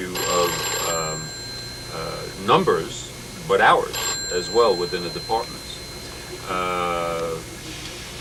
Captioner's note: phone ringing